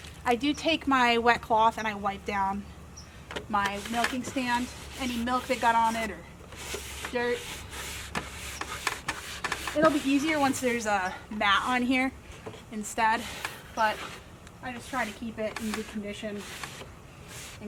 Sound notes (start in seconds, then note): 6.4 rubbing wood